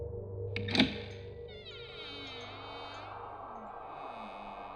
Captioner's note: door creaking